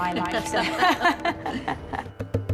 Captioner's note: chuckles